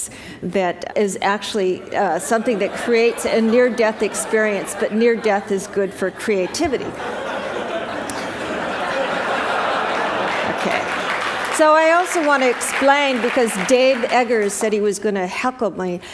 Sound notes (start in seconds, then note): 7.1 laughter